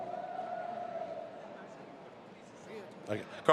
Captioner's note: assistant speaking Spanish